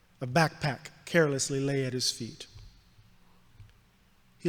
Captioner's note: none